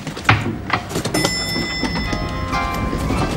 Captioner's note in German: Klingel läutet